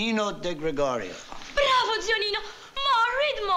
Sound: speaking italian

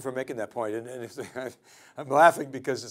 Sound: chuckles

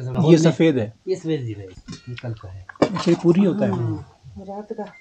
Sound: local language

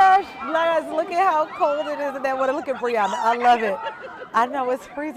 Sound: laughter

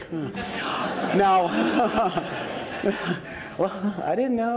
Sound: laughs

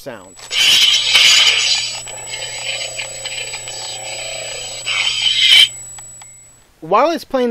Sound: lightsaber sounds

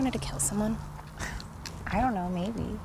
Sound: Melissa scoffs

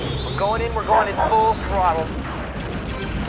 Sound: bark; lasers firing

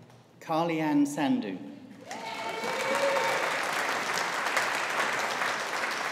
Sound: audience applauding

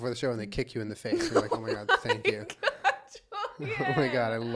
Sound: laughter

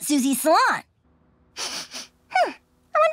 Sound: sniffing

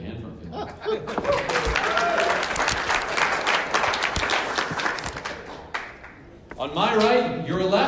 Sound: clapping

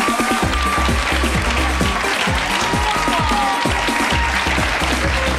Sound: engaging music; audience applauds and cheers

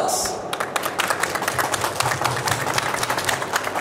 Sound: audience applauds

